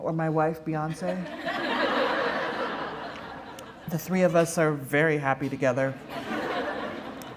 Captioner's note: laughter